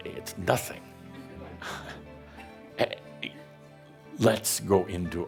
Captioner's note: a few chuckles